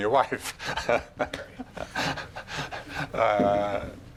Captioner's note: laughing